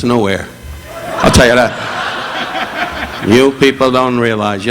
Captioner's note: audience laughing